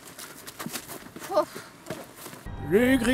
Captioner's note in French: soupir